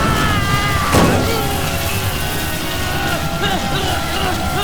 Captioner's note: groaning